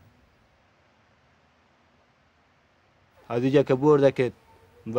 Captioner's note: man speaking Afghan